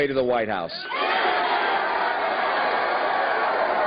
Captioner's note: cheers and applause